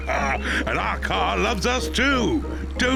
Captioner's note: laughs; toots beeps; all laugh